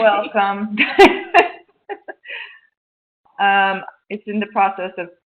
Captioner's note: laughter